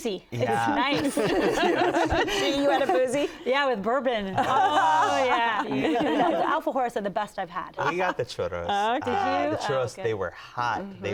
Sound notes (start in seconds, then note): 0.9 laughing